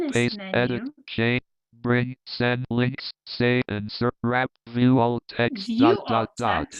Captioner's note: screen reader rushing, skipping